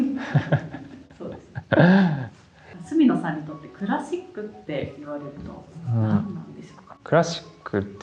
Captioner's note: laughs